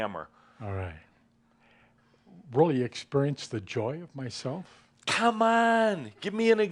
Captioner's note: none